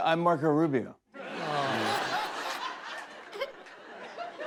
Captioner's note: laughter